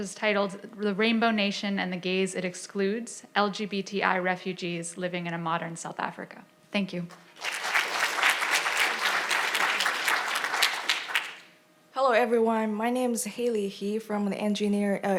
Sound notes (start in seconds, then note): 7.3 audience applauding